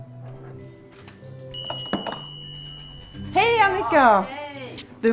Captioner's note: doorbell rings